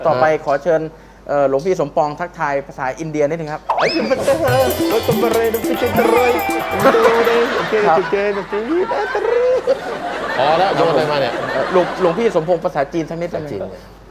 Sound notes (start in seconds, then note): 3.7 laughter